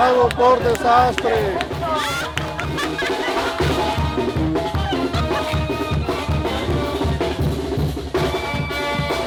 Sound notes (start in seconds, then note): 1.7 laughing; 4.1 festive music